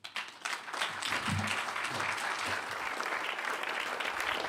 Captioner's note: applause